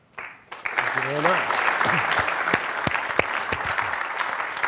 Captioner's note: crowd clapping hands